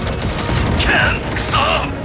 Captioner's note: yell